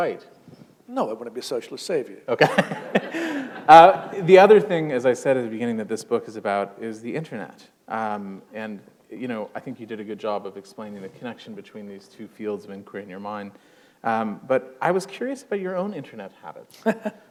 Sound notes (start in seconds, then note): 2.4 laughter